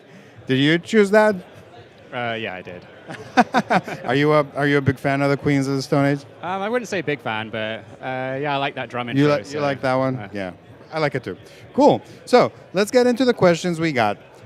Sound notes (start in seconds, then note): 6.7 laughs